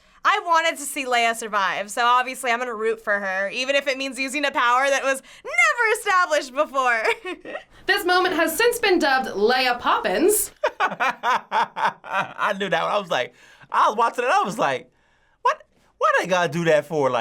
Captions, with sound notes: I wanted to see Leia survive. So, obviously, I'm gonna root for her even if it means using a power that was NEVER established before! - This moment has since been dubbed Leia Poppins. - (laughs) I knew that. I was like-- I was watching it. I was like, "Why they gotta do that for her?"